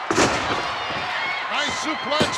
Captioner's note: body thuds